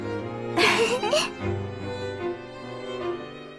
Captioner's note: giggle